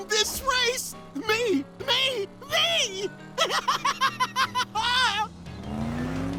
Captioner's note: laughing